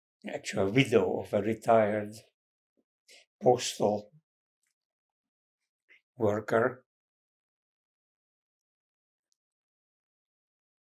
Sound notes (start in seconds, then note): 6.8 pauses 6 seconds